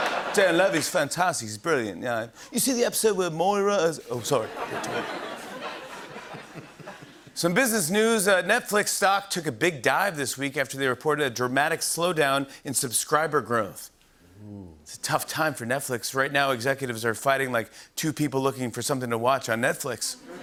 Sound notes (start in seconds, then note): 4.4 laughter; 20.2 laughter